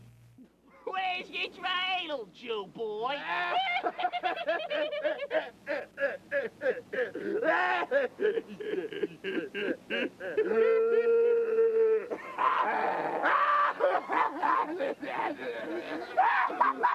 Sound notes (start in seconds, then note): 3.2 maniacal laughter